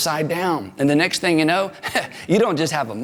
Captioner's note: laughs